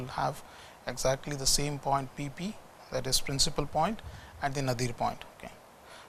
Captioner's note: distortion